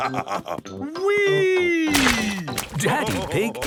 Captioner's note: splashes